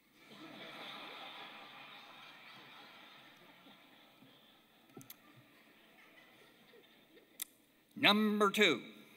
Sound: laughter

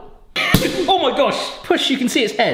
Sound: cork whooshing

